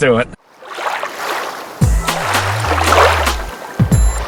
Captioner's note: water splashes